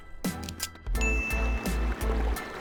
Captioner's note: royalty-free music plays; ding; royalty-free music plays